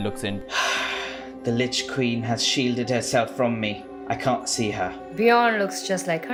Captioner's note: sighs